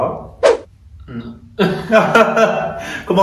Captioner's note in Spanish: risa nerviosa